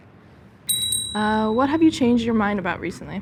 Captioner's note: bell dings